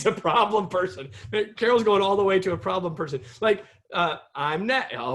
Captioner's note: laughter